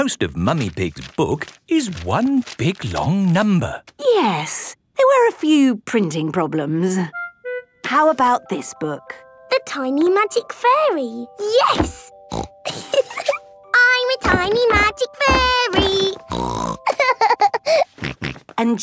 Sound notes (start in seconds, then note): 12.4 snorting and giggling; 16.2 snorting and laughing